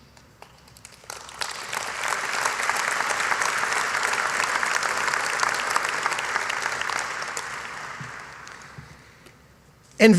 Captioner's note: applause